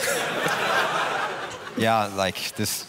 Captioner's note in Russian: смех